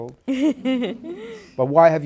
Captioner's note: laughs